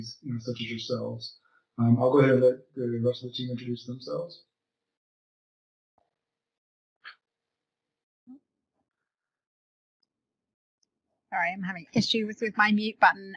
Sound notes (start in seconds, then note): 4.3 pause